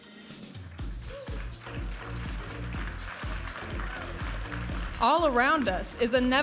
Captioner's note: audience applauding and cheering